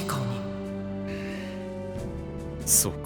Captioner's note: breath